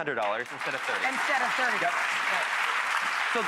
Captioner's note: applauding